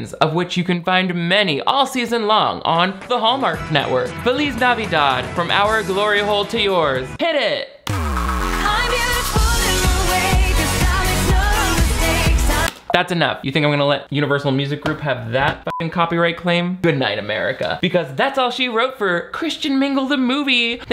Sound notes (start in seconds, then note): 7.8 energetic pop music; 15.6 beep